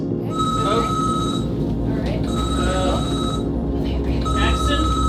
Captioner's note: alarm blaring